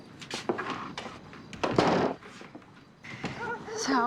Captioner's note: door closing